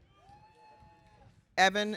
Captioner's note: audience cheering